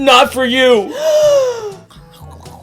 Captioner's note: Puppet Girl gasps